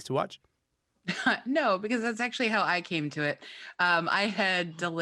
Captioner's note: laughs